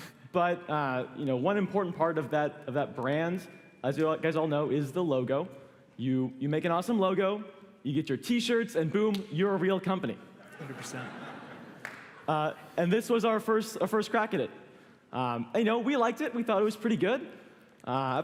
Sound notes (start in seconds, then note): 10.4 laughter